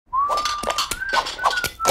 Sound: whistling

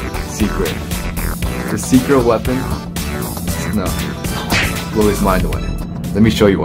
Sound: poof

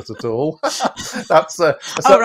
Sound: laughter

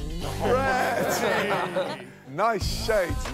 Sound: laughter

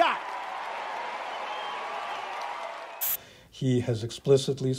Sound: audience applauding

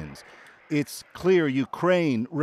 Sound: speaking alternate language

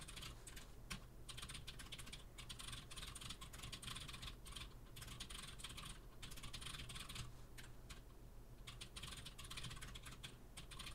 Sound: typing sounds

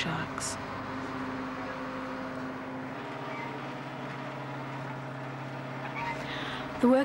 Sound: boat motor

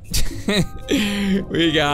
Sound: chuckles

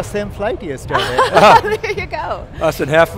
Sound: laughing

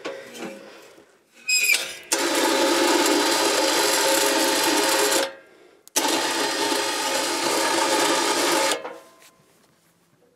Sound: drilling

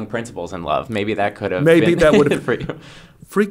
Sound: he laughs

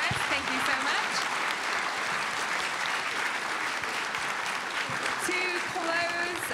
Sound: audience applauding

